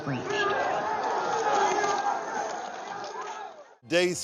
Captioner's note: rioting, shouting